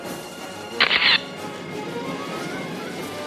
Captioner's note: camera shatters; orchestral music